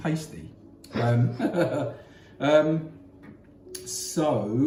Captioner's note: laughs